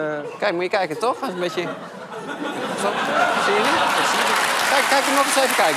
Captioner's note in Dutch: gelach en applaus